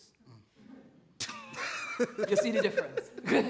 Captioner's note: others laugh